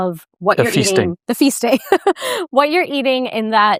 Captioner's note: laughs